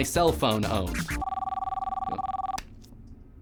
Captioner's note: phone ringing